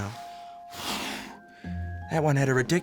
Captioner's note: blows